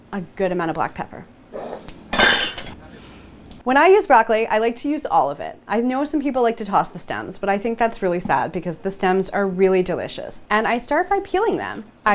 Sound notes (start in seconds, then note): 2.1 pepper grinder crashes